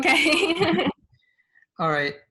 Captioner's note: both laugh